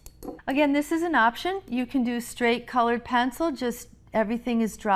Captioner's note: glass tapping